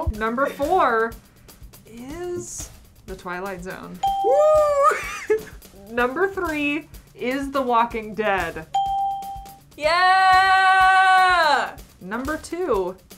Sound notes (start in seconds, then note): 4.0 ding; 4.7 chuckles; 8.7 ding